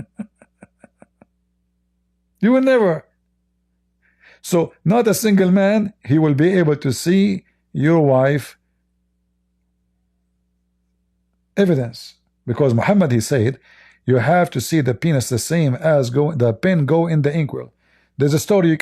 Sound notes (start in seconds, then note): 0.0 Ketawa